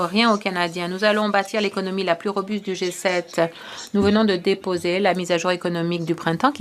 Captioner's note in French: voix de l'interprète